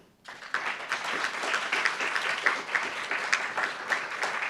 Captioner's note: applauds